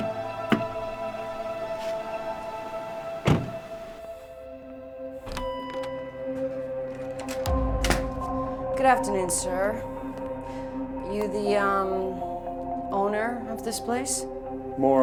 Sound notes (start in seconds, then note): 5.4 door bell dinging; 7.4 ominous music